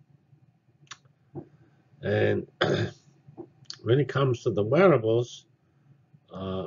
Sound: cough

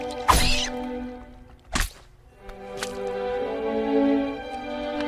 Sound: splat!; slug shrieks

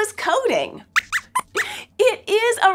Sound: squeaks squeaks

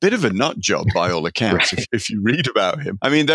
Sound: laughing

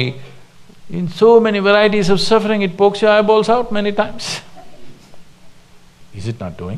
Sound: few laugh

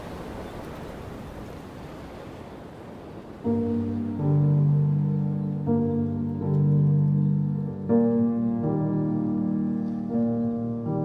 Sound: waves crashing

